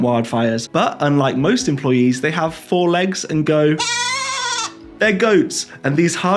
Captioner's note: bleet